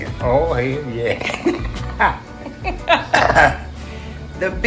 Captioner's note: laughter